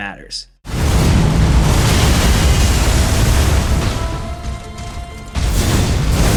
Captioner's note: earth rumbling; dynamic music